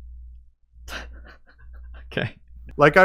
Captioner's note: laughs